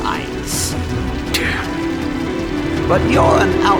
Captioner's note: under breath